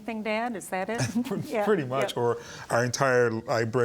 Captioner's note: chuckling